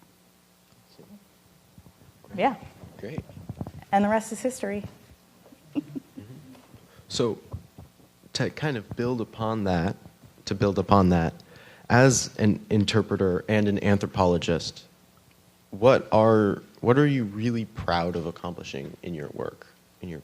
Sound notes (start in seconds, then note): 5.5 laughing